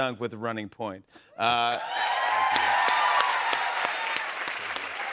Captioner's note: cheers and applause